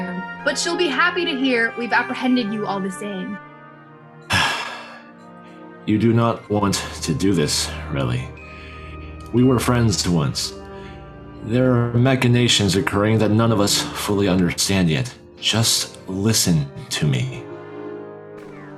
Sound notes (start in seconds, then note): 4.2 sighs at the incoming cliffhanger